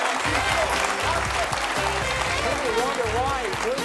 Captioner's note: audience applauds; saxophone music